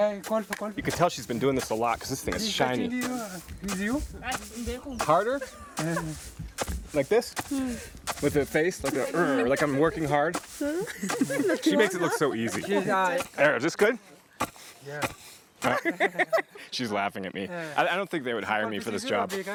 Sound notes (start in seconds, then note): 2.7 indistinct chatter; 10.8 laughter; 15.6 laughter